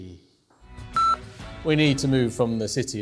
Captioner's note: beep